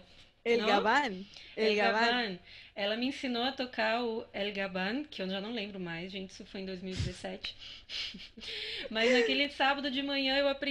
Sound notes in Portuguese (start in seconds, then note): 7.8 risos